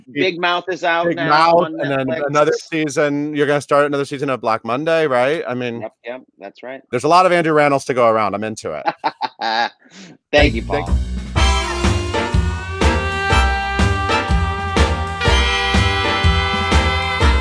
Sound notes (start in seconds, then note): 8.7 laughs; 12.5 upbeat music